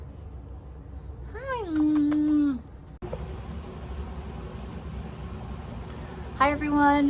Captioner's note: smooching